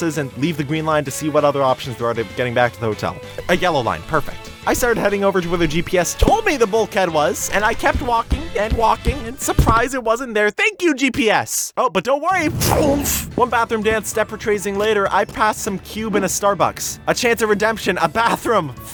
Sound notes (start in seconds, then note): 12.4 zoom